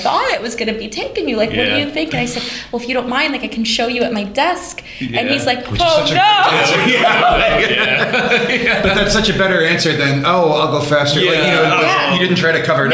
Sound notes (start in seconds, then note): 6.4 laughter